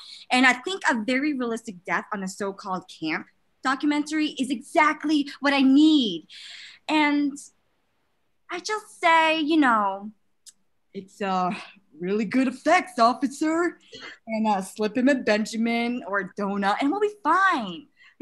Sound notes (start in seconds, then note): 10.9 in a deep voice